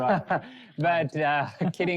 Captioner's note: laughter